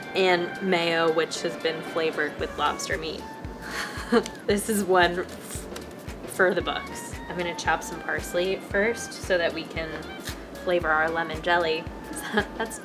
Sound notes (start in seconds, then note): 3.7 laughs